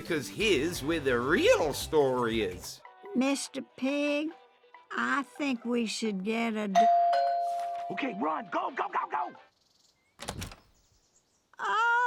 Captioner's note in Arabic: يرن جرس الباب